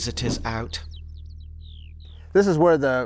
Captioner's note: birds chirping and chittering